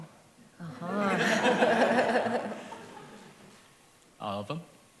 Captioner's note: laughter